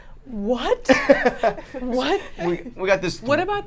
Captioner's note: laughing